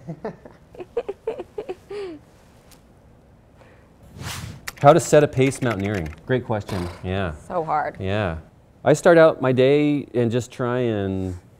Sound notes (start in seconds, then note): 0.0 laughs; 0.0 giggles; 4.0 air whooshing; 5.4 keyboard clicking; 6.6 blows raspberry